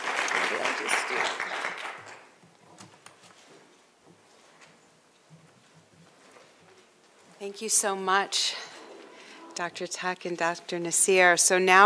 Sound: applause

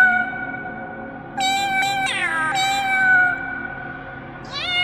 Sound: cosmic meowing

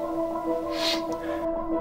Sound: sniff

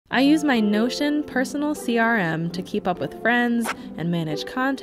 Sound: pen scratches

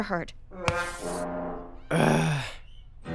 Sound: groans

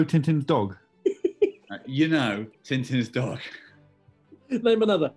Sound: giggling

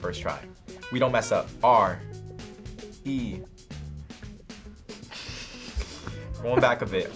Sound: snickers

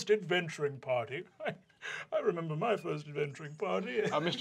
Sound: chuckling

